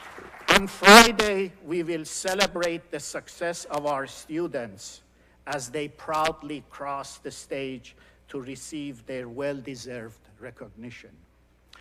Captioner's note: applause